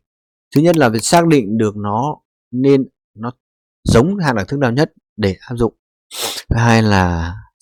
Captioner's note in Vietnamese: khịt mũi